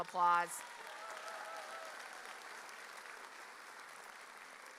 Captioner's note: audience cheering